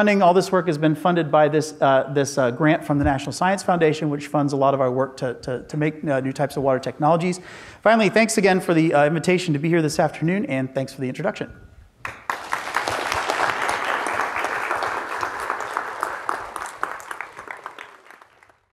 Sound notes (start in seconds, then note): 12.0 audience applauds